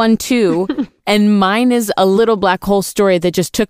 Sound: laughs

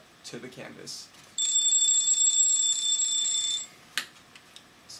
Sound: telephone ringing

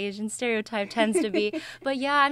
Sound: laughs

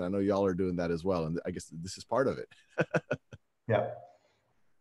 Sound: laughs

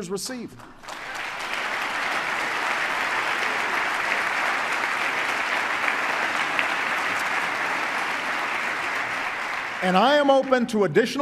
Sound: applause

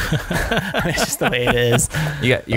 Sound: laughter

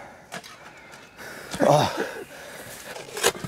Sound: he groans

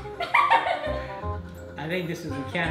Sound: laughs

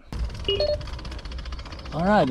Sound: beeps

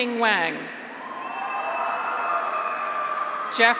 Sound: graduates cheer

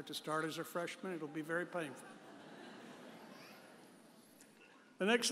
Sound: audience chuckles

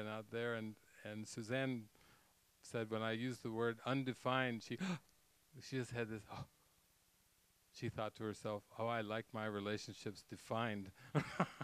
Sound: gasps; gasp

